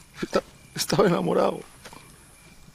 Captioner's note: crying